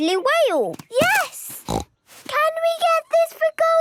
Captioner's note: snorts